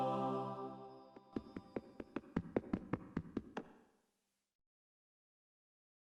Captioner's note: beautiful angelic music; footsteps